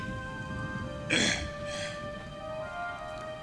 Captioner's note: sighing